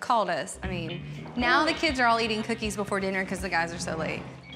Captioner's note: none